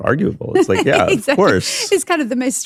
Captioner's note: laughs